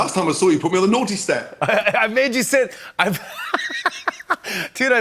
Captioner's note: laughs